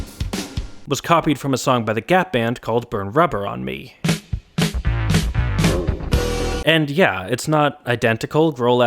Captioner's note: bang